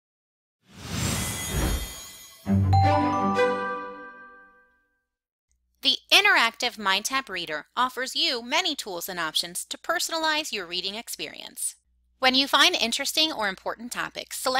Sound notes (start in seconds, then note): 0.7 air whooshing; 1.3 chimes ringing